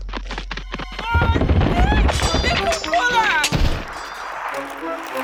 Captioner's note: struggling and yelling